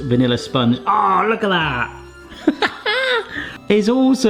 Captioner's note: laughs